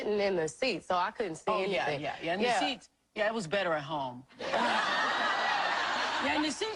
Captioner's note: laughing